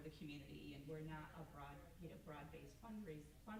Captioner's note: stammers